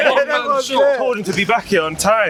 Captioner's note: cheering